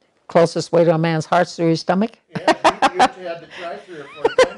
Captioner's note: laughter